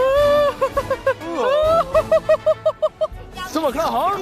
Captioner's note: hohohohoho